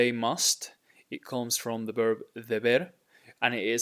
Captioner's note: speaking in Spanish; speaking in Spanish